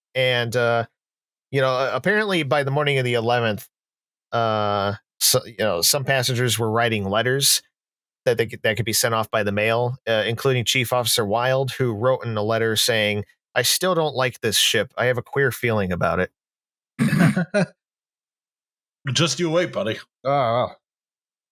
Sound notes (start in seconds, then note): 17.0 laughs; 17.3 snorts